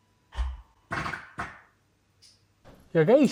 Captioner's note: Audi fart noises